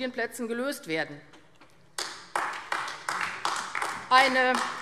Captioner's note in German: Beifall AfD